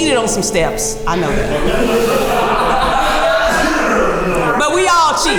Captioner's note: group laughing